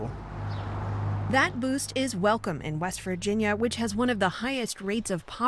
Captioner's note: voice-over